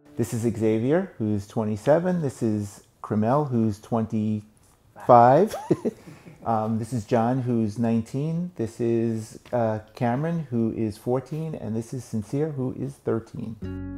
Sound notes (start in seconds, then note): 5.0 giggles